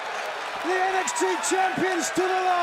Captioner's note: crowd cheering